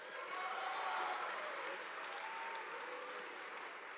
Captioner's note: audience applauding